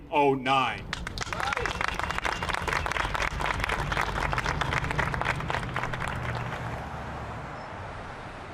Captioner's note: applause